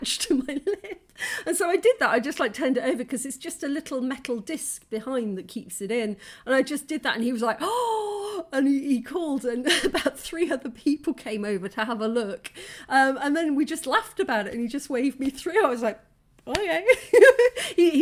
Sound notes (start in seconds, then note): 6.2 gasp